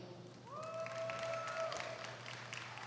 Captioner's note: applause